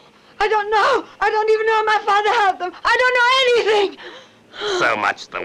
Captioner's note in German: Eine Frau schreit